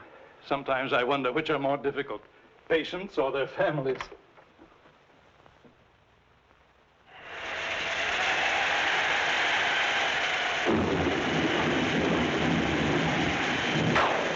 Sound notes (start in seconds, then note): 7.2 wind Howling; 10.2 thunderclaps